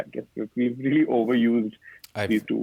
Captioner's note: laughing